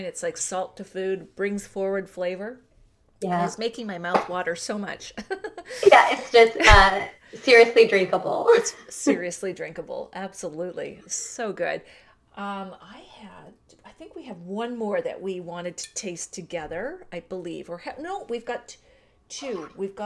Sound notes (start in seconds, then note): 5.1 laughter